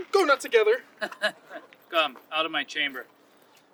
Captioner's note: Cloten laughs